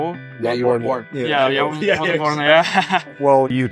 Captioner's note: laughs